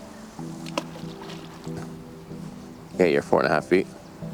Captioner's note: water splashing